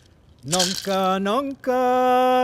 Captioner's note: rattling